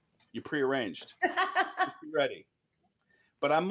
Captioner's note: laughs